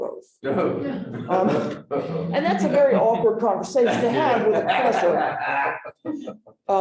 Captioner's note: laughter